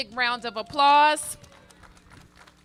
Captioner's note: applause